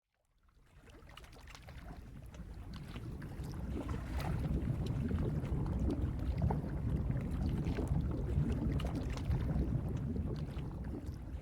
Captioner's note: waves gently lapping